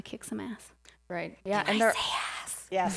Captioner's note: whispering